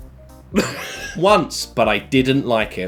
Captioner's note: laughing